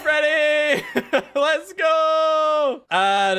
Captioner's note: laughs